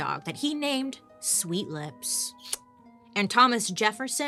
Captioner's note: lips smooching